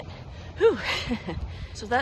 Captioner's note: laughter